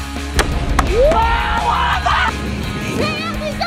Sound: upbeat rock music; excitedly screaming

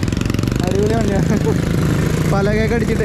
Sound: sound of motor bike

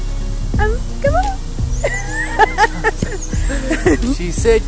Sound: laughs

